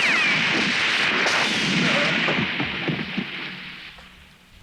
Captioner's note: guns roaring